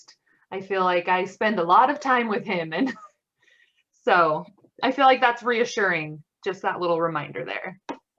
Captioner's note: laughs